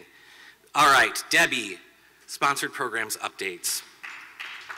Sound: applause

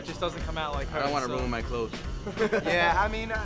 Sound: laughing

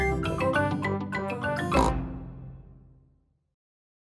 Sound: oink

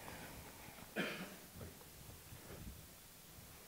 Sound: shuffling, a small cough

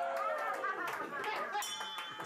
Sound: bell rings; laughter

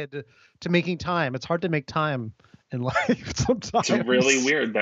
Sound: laughs

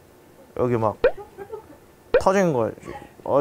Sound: hahahahahahahahahaha

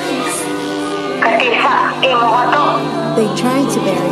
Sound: woman speaking in language other than English

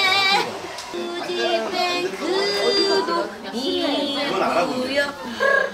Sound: laughing too hard to breathe

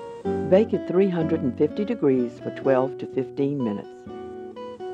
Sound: voiceover

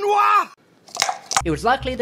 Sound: dice rattling

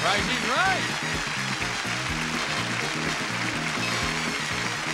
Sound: audience clapping

